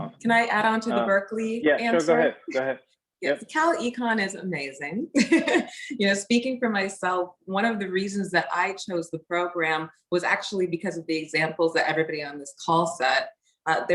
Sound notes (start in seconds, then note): 5.0 laughs